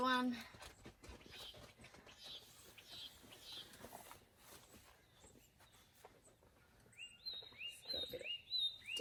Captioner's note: birds make loud bird calls outside